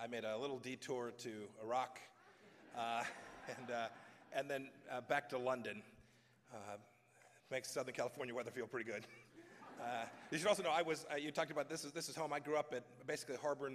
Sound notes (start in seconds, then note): 2.2 laughter; 9.3 laughter